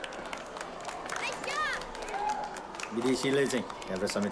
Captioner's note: children applaud